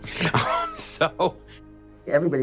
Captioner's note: laughs